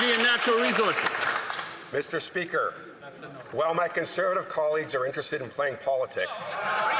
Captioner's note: some Applause